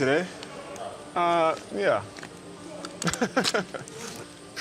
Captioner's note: laughing